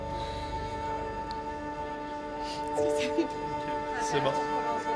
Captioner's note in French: pleurs